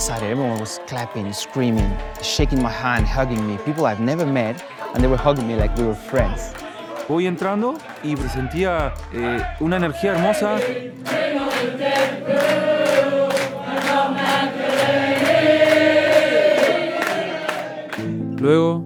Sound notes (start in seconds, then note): 7.1 in Spanish; 10.7 Crowd chanting: "Bring on the Deadpool and Rob McElhenney!"; 18.3 in Spanish